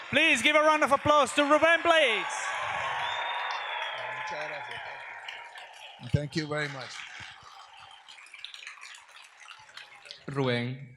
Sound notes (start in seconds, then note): 2.3 audience applauds; 10.7 all speak in Spanish